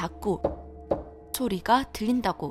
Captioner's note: knock Knock